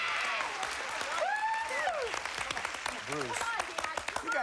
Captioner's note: cheers and applause